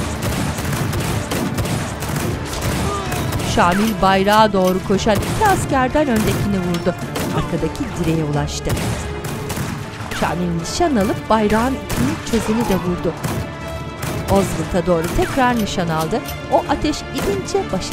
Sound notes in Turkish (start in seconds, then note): 2.6 İnleme sesi; 5.4 Silah sesleri; 12.2 İnleme sesi; 15.8 Müzik - Gerilim; 15.8 Silah sesleri